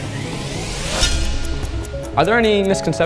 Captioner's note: time ticking